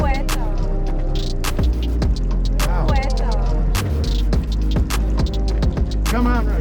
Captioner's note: chatter